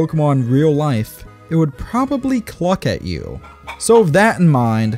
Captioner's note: chicken Clucking Noises